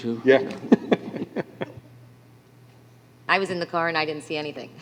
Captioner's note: laughter